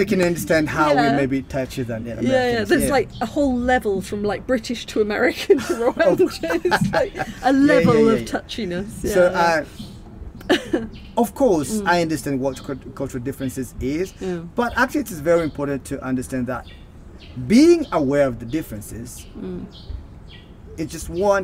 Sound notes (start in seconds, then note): 5.5 laughing